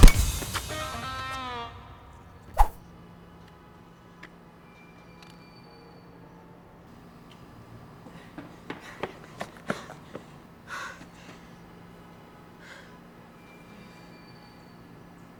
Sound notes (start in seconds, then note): 9.0 Hines panting